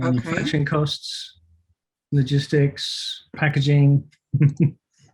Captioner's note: giggles